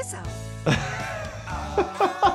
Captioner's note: laughs